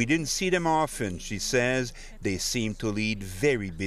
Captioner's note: speaking FRENCH